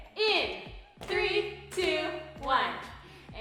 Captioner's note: smacking mats